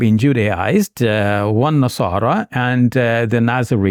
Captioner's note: speaking in Arabic